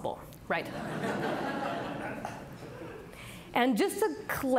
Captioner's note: audience laughing